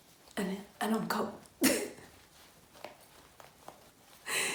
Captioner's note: laughs